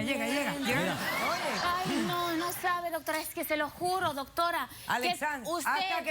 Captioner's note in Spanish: risas